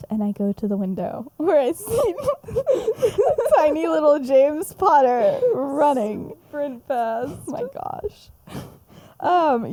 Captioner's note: laughs